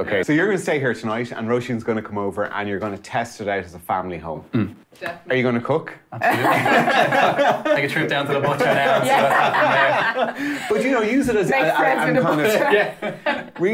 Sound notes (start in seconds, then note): 6.2 both laughing; 9.9 all laughing; 12.1 both laughing